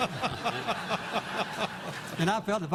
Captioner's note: laughter